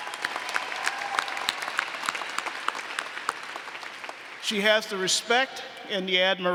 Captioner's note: applause